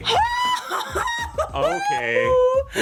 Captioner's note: exclaiming